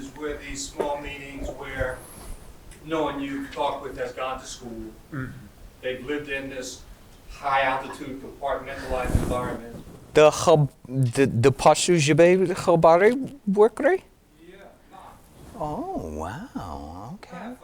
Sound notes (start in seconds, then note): 10.3 speaking in foreign language